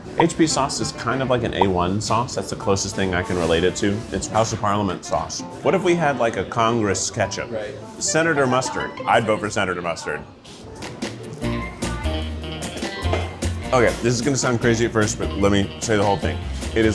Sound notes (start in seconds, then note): 11.1 gentle upbeat music; 11.3 people chattering